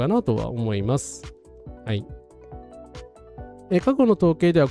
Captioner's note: none